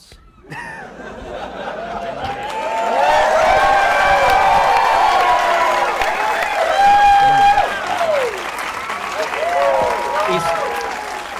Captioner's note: laughing and cheering